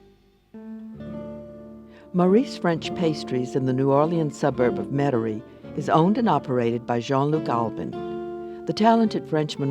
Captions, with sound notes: - [Voiceover] Maurice French Pastries in the New Orleans suburb of Metairie is owned and operated by Jean-Luc Albin. The talented Frenchman was born